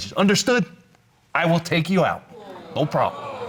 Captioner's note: audience exclaiming